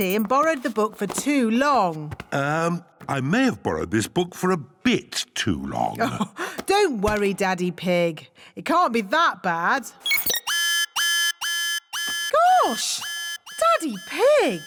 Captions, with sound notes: and borrowed the book for too long. Um, I may have borrowed this book for a bit too long. (CHUCKLES) Don't worry, Daddy Pig. It can't be that bad! -(BEEPING) -(ALARM BLARES) Gosh! Daddy Pig!